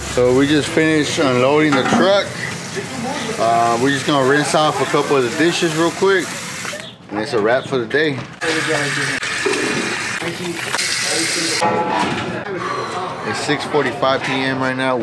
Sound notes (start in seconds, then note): 8.5 water running; 9.4 dishes clattering